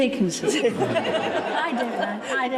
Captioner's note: everyone laughs